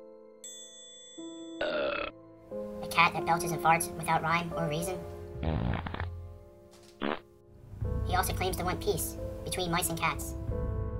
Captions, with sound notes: [Ding] [burp] A cat that belches and farts without rhyme or reason. [fart] [fart] He also claims to want peace between mice and cats